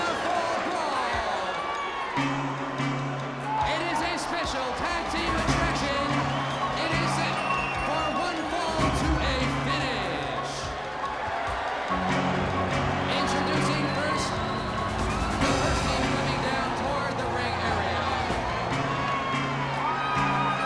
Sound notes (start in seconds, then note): 12.1 crowd chatter; 19.1 crowd cheering